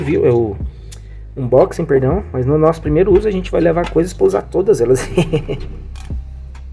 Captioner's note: laughs